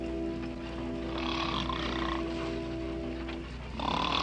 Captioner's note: snoring